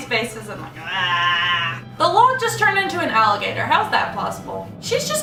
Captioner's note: ehahhh!